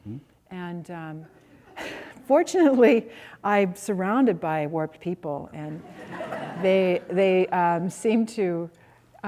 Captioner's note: laughter